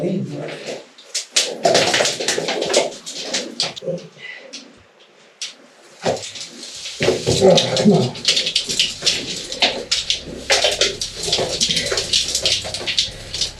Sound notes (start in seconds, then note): 1.5 equipment jangling